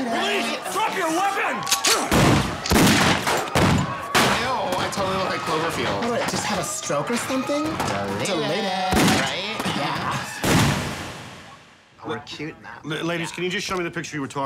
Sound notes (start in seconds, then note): 2.3 shotgun clicking and booming; 10.4 shotgun booms